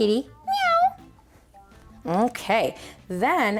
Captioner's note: meows